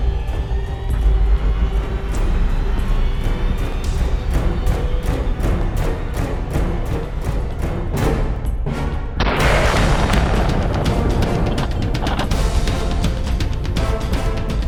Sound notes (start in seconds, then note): 0.1 tense music; 9.2 gunshot; 12.4 dynamic music